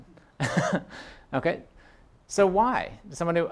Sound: chuckle

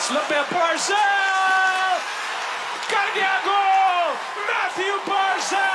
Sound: hockey commentary in Punjabi playing

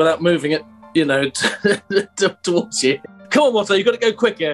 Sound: laughing

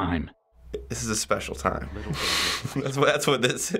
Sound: snickers

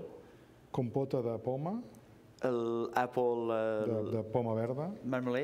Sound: speaking catalan

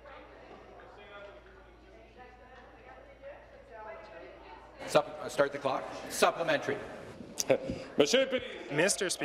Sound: conversation din

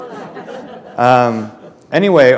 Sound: laughter

